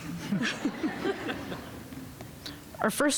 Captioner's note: audience laughing